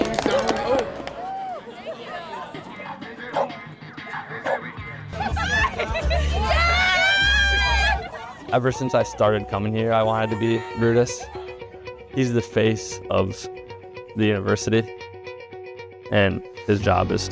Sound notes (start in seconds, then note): 4.4 bulldog barking; 6.0 laughing